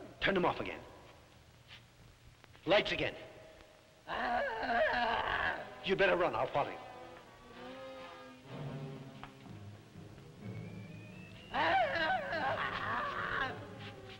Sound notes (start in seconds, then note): 4.0 Popoca moaning; 10.7 dramatic music; 11.5 Popoca moaning; 14.0 suspenseful music